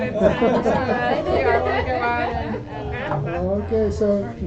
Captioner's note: laughter